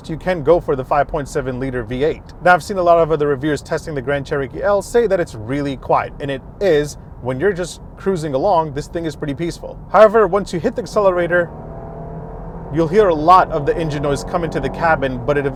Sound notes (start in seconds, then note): 11.4 car engine roaring